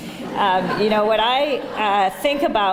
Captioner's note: laughter